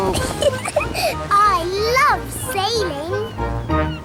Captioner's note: giggles